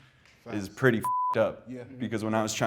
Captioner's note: beep